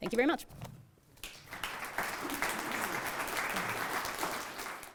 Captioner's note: applauding